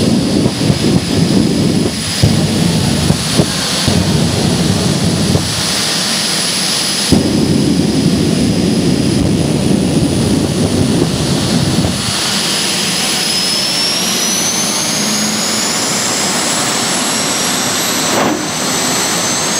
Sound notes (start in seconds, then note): 2.8 pop, pop, pop; 13.7 jet engine high winding sound